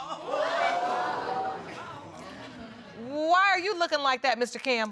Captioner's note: audience gasps